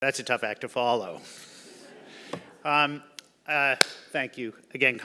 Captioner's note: audience laugh